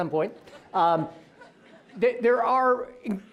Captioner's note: audience laughing